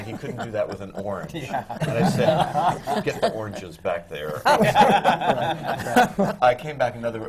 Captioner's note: laughter